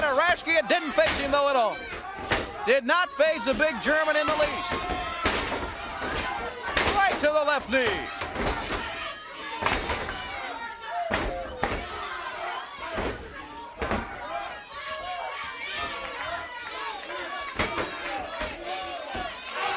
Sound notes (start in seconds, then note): 8.5 crowd chatter